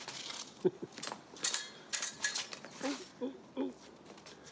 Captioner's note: narrator laughs